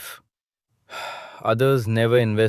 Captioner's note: sighs